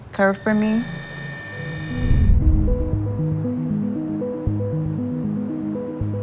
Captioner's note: electronic buzzing; bright music